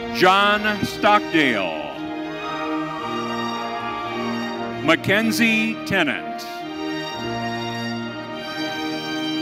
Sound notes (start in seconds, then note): 1.4 audience cheering